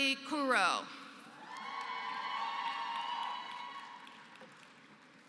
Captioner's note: applause